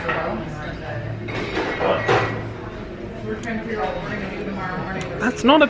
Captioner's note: indistinct background chatter